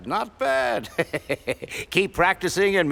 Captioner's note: laughing